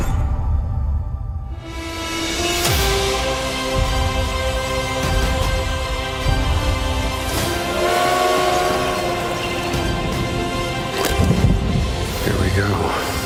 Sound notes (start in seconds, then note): 1.6 thrilling music plays; 10.8 cracks, then rumbles